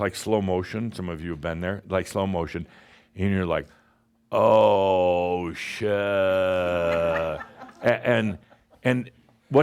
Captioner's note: more chuckles